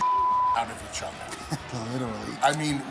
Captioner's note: laugh